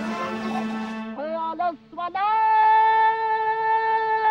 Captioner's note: chanting in Afghan